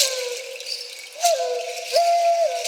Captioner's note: none